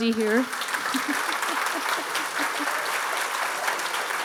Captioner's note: audience applauding